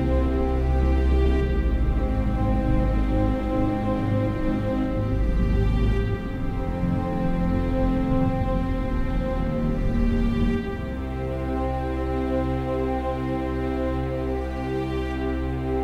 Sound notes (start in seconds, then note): none